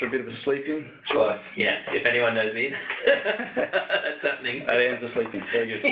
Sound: laughs

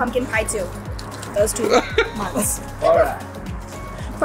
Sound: laughs

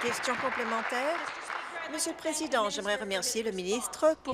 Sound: applause

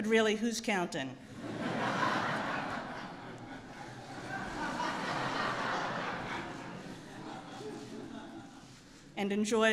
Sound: laughter

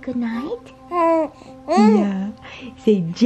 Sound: baby cooing

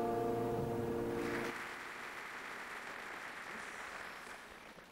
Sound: applause

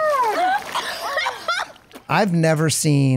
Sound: coughing

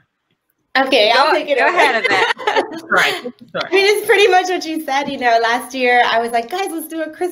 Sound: laughter

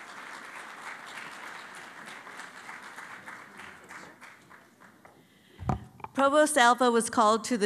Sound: applause

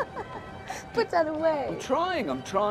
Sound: laughing

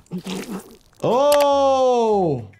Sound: man speaks in foreign language; blood squelches; mouse clicks

